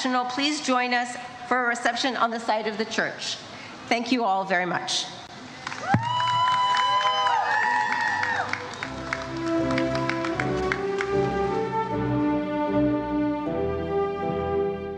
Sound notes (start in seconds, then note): 5.6 audience cheers and applauds